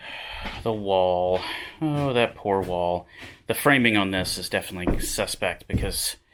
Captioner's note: sighs